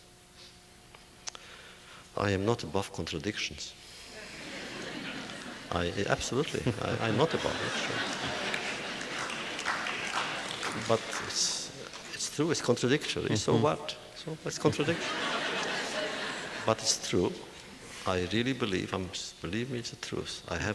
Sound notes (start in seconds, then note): 4.4 audience laughter